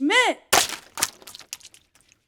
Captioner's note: container smashes; liquid splashes